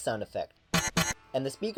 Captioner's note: harsh beeping